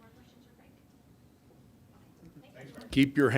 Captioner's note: reporters chatting